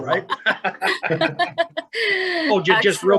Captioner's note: laugh; laughs